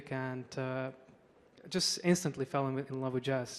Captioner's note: none